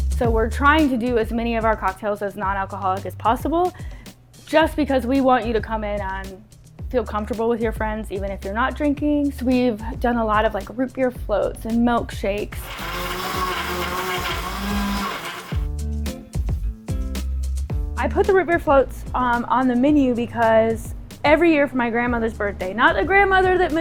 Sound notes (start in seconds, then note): 12.5 blender whirring; 15.7 mellow upbeat music